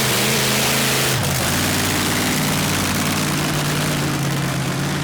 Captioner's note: monster truck engine roars